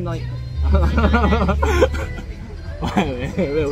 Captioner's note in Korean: 앞에서 계속 웃음